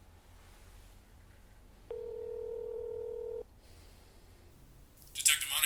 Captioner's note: phone ringing